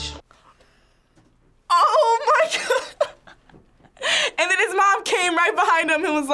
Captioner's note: laughs